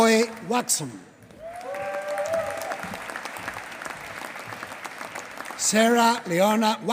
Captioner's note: applause